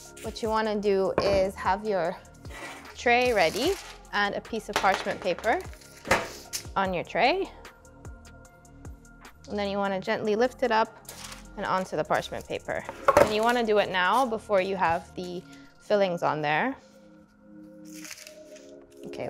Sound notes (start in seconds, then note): 12.9 pan clunking on counter; 17.8 parchment paper crunching